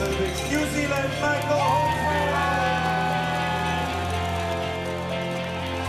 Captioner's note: cheers and applause